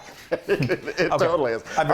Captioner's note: laugh